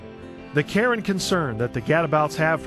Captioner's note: voiceover